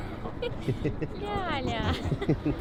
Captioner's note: laughter